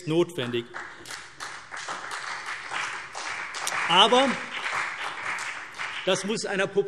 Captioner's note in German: Beifall CDU und BÜNDNIS 90/DIE GRÜNEN